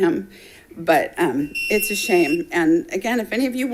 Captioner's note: timer beeping